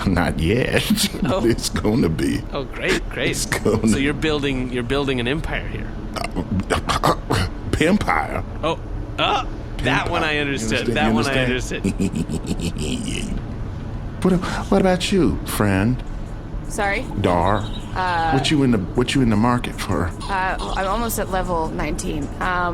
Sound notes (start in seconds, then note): 13.8 chortles; 17.1 Flappy Garfon sound effects